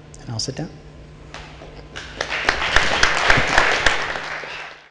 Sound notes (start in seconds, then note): 2.0 audience applauding